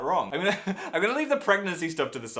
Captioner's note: laugh